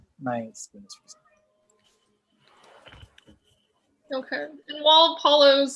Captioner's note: speaking faintly